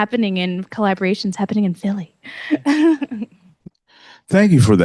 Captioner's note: chuckles